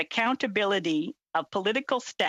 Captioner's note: speaking in French